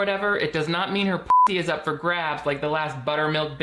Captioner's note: beeps